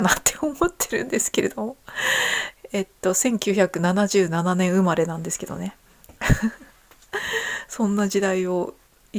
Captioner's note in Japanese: 笑い